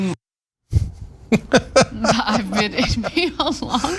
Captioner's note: laugh